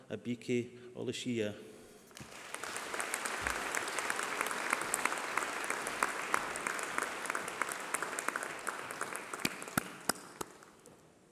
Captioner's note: applause